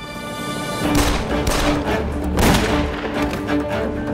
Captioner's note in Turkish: Silah sesleri